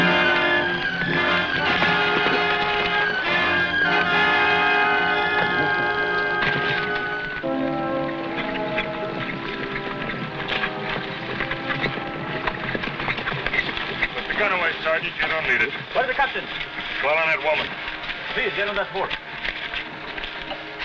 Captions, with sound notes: (horse hooves pattering) - Put the gun away, Sergeant, you don't need it. - Where's the Captain? - Follow that woman. - Here, get on that horse.